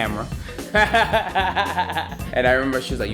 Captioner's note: laughter